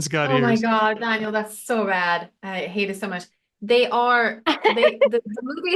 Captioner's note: gasps